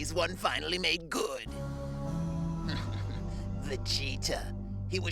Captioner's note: chuckles